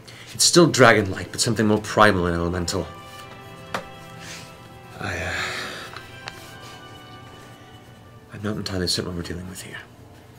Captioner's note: sighs